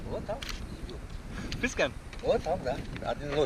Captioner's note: man speaks Tajik; man speaks Tajik